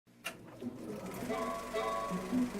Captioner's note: projector Turns On - sound effect